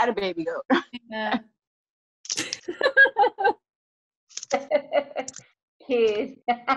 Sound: laughter

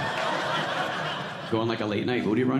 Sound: audience laughing

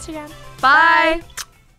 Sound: smooching

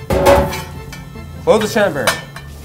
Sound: meat thuds

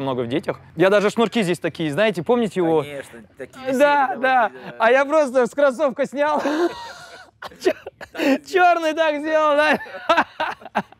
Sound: laughs

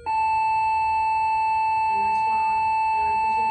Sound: bell ringing

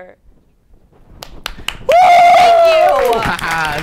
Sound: claps and cheers wildly

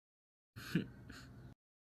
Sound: Conner chuckles

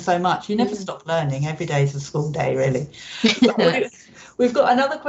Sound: Justine laughs

